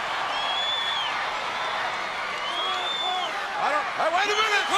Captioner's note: crowd whistles and cheers